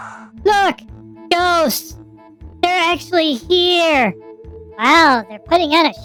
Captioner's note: gasping; excitedly